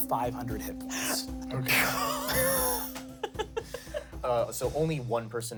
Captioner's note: gasps and laughs